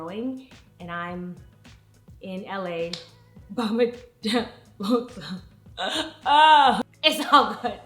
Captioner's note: mock crying; dramatic crying